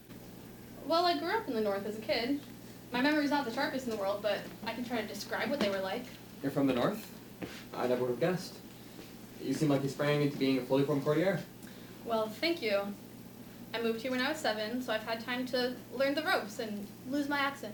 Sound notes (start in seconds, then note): none